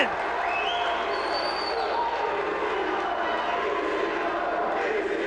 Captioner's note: spectators chanting "ECW!"